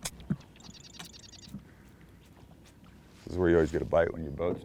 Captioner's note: birds singing